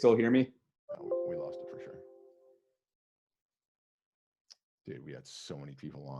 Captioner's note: notification rings